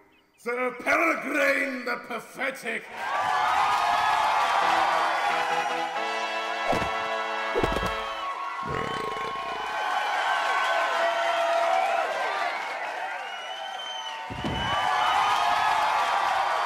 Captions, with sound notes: Sir Peregrine the Pathetic! (CROWD CHEERING) (BURP!) (THUD)